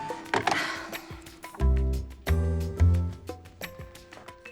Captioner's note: sighs